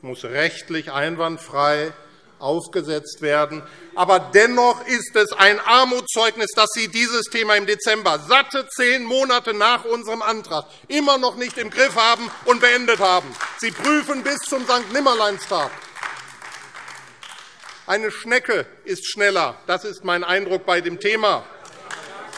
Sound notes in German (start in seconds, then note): 16.3 Beifall AfD